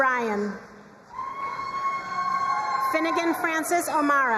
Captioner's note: crowd cheering and applauding